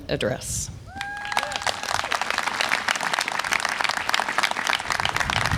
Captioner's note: audience applause and cheer